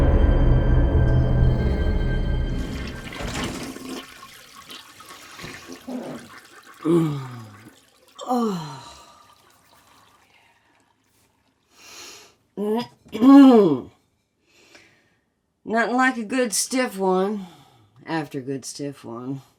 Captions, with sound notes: (toilet flushes) (Betsy moans) - Oh, yeah. Nothing like a good stiff one after a good stiff one.